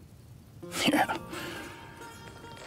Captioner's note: both chuckle